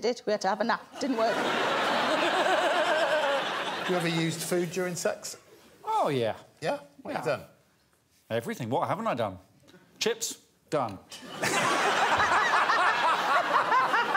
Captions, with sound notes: we had to have a nap, didn't work. [laughter] You ever used food during sex? Oh, yeah. Yeah? What you done? Everything. What haven't I done? Chips, done. [laughter]